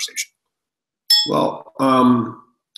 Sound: bell chimes

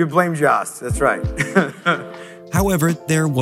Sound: laughs

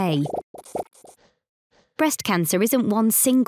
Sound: blooping

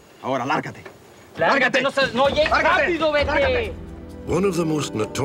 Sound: NON-ENGLISh SPEECH

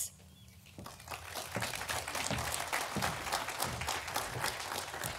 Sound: audience applauding

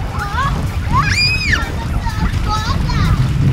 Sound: girls screaming

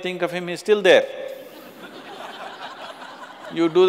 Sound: laughter

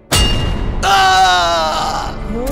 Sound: groans

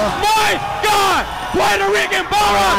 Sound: crowd cheering

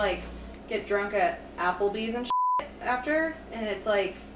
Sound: beep

